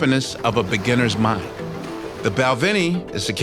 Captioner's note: waves crashing